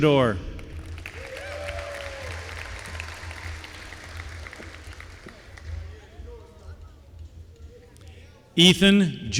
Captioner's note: applause